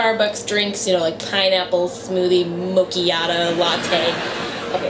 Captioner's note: audience laughter; laughter